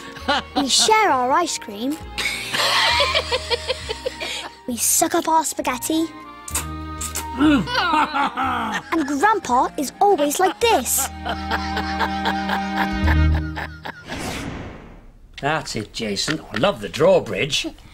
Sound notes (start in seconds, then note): 2.2 laughter; 6.9 they slurp and laugh; 10.9 chuckles